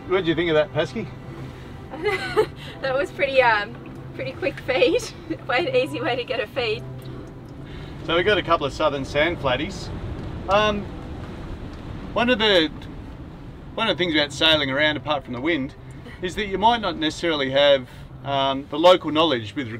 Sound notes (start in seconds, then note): 2.0 laughs